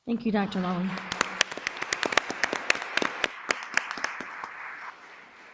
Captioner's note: audience applauds